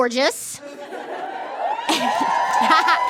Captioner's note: laughter turns to whooping; cackles cutesily